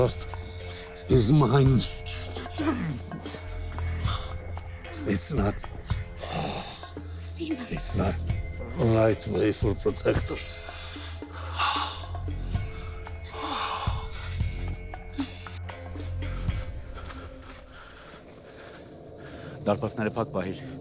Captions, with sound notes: It's not... It's not like he'll protect us. (Sanasar breathes with difficulty) (Zhozef speaking in foreign language)